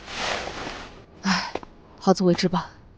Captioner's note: sighs